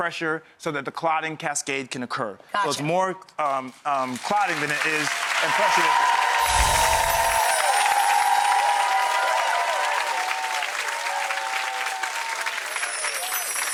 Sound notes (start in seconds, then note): 6.8 clapping